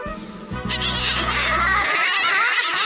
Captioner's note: baaing